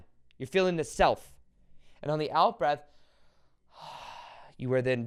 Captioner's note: exhales